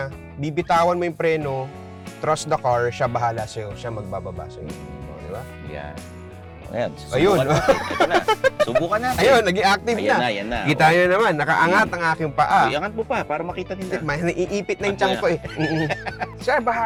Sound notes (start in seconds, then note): 7.2 laughs